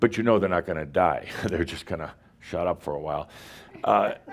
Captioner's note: a few chuckles